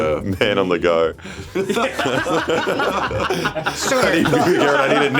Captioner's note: group laughs